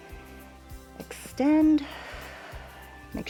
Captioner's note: exhales